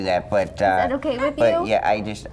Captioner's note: baby grunt